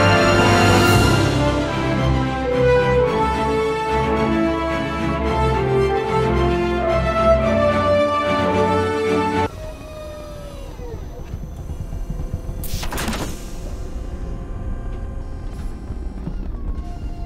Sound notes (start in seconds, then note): 13.5 space ship noises and beeps